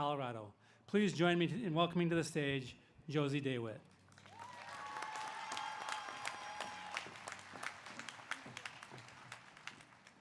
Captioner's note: applause